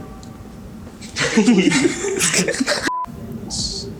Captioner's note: laughing off camera